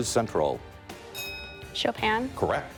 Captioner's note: bell dinging